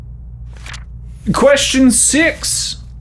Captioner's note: paper rustles